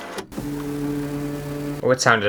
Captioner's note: scanning Sounds; vibrations